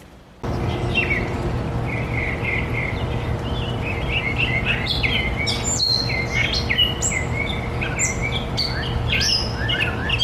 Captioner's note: birdsong